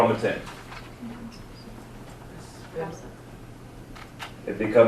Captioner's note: group chattering